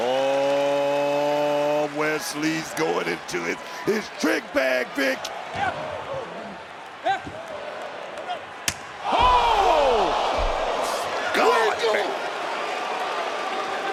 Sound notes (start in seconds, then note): 5.3 audience cheering